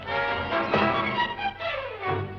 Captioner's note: thud